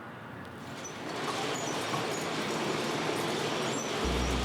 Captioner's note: door sliding open